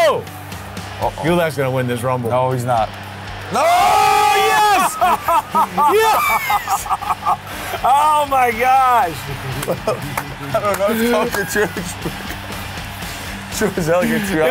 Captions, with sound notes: Oh! - Uh oh. Gulak is gonna win this rumble. No he's not. (screams) - Oh, yes! (laughs) - Oh my gosh. (laughs)